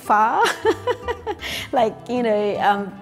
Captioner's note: laughing